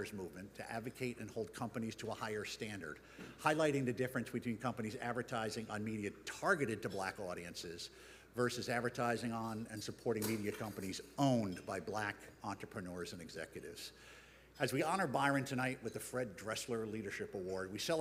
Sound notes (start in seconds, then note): none